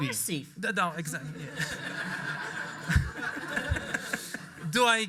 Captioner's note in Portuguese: audiência rindo